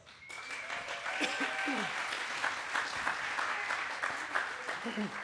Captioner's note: audience cheers and applauds